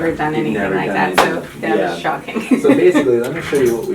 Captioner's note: chuckles